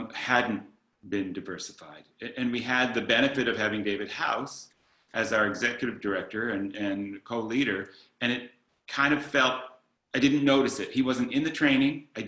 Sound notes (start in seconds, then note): none